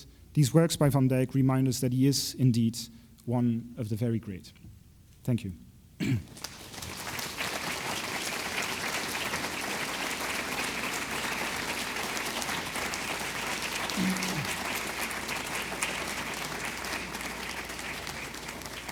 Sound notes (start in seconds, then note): 6.5 applause